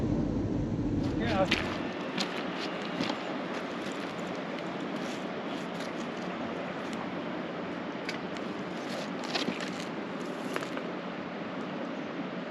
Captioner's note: footsteps on rocks